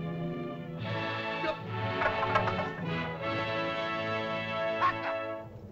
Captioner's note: Tumak shouts in caveman language; triumphant music; spears clatter; Tumak shouts in caveman language